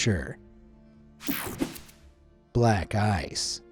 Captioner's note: screen whooshing